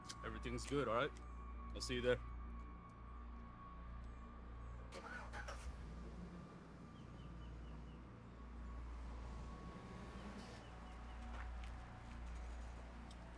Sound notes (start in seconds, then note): 4.9 engine cranks; 9.2 tense music